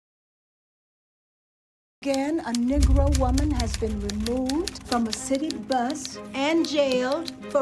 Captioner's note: typewriter keys clacking